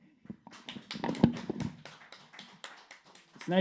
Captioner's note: clapping